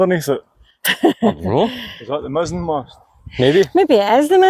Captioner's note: laughter